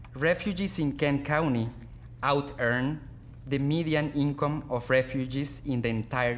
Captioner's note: none